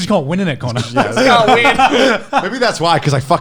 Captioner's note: all laughing